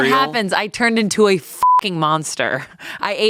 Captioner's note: beep